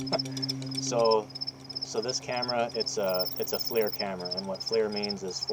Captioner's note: crickets in brush